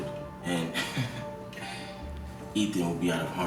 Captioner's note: Z chuckling